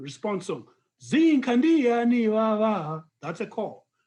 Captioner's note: non-english speech